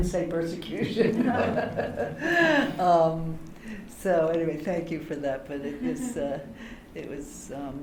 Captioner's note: laughter